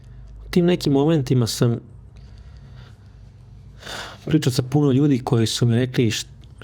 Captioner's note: sigh